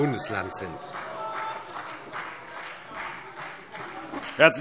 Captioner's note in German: Vereinzelter Beifall CDU